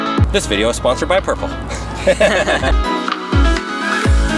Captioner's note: electronic music; laughs; electronic music